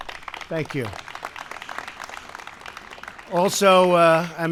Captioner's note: applause